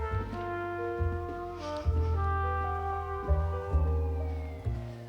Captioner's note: sirens wailing